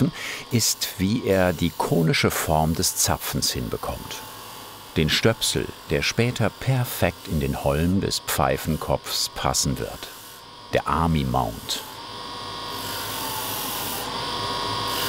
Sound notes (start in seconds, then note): 11.8 high grinding noise